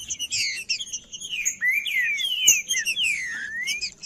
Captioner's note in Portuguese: trinca ferro cantando